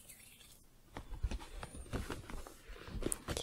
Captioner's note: hand sounds; book shuffling